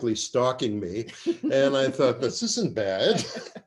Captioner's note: laughter